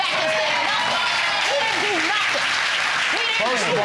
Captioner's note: audience cheering and laughing